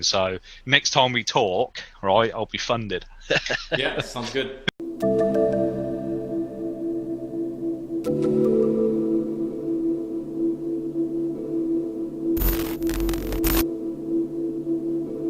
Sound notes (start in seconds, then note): 3.3 laughs; 4.9 tense music